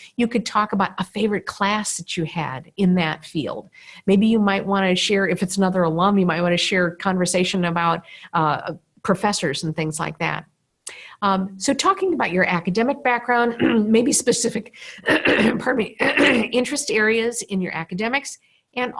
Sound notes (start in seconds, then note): 15.0 coughs